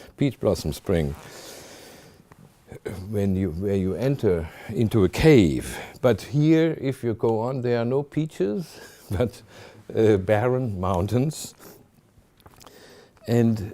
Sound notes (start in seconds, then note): 8.6 chuckling